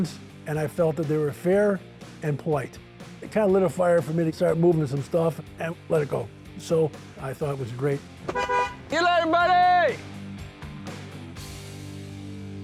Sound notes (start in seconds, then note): 8.2 honking